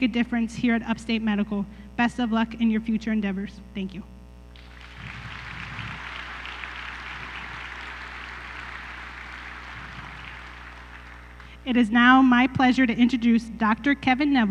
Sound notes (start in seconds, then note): 4.5 applause